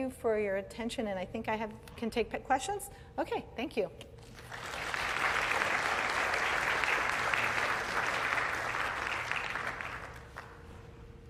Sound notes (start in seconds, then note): 4.3 applause